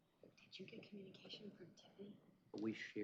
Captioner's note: indistinct chatter